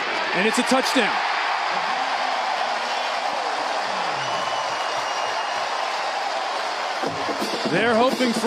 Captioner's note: cheering